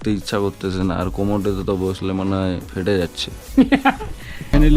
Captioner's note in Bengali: সশব্দ হাসি